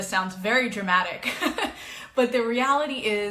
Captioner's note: chuckles